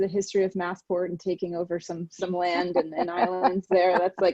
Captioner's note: laughing